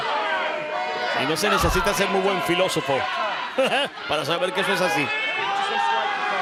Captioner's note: laugh